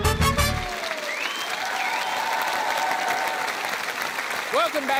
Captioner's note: applause